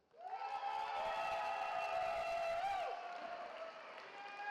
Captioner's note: cheering